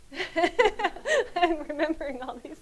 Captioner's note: laughs